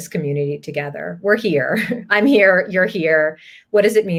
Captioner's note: laugh